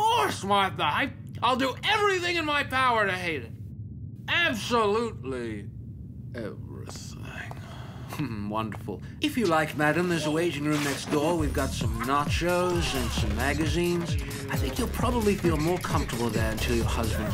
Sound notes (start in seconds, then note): 4.2 in a sexy voice; 11.8 sexual moaning